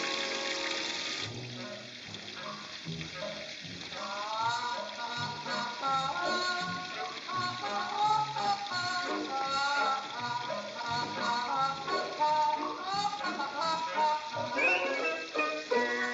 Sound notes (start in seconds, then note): 1.2 playful music; 1.3 water running